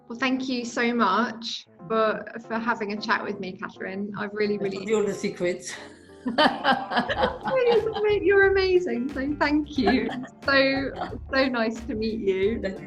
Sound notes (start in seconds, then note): 6.2 laughing